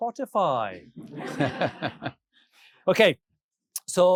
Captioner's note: audience laughing